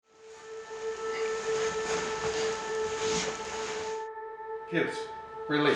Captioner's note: bed sheets rustling; dramatic music